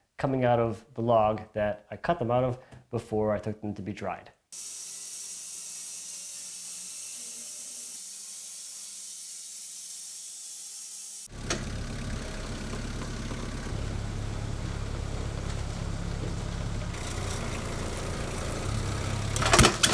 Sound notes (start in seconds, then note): 4.6 machine whirring; 11.3 motor rumbling